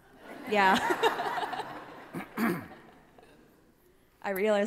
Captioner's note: laughter